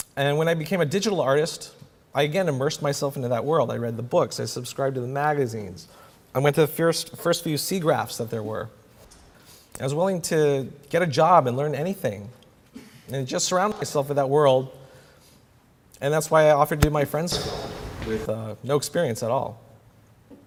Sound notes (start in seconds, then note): 16.8 audio skip